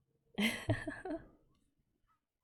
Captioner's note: laughs